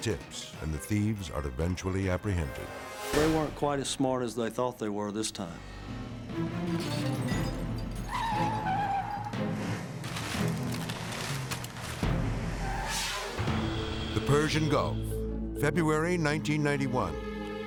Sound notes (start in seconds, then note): 7.7 tires screeching; 12.5 air whooshes